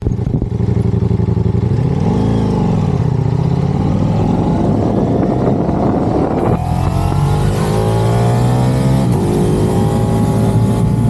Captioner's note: wind and Exhaust noises